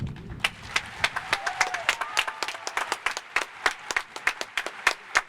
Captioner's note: cheers and applause